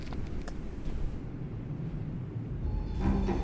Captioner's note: rustling noise